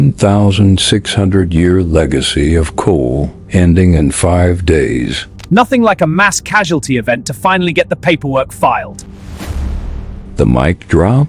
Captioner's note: sarcastic Commentary